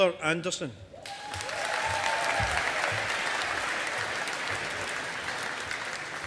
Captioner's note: audience applauding